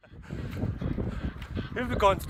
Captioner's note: wind blowing